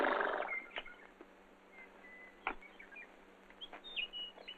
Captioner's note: chirping